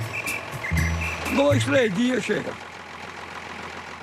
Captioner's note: Portuguese spoken audio